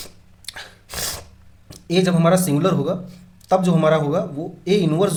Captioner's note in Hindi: नाक से की जाने वाली आवाज़